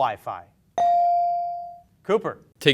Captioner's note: beep